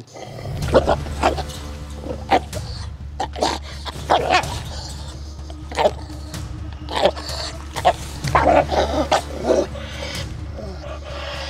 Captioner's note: barking, growling sounds and tension music